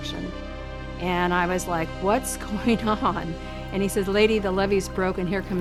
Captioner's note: laughs